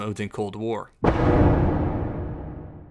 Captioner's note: thud